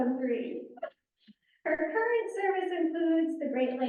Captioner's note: laughs